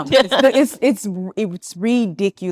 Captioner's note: attendees laughing